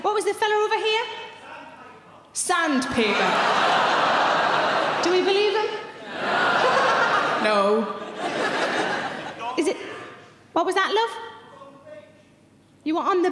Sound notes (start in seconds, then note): 2.9 audience laughing; 7.4 laughs